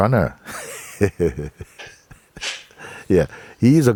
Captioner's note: Mooji laughs